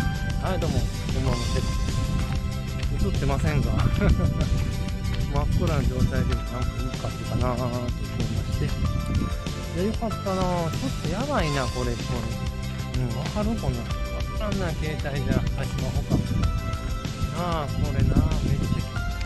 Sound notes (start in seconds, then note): 8.1 laughs